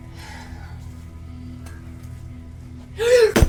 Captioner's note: Wilhelmina sighs; Wilhelmina gasps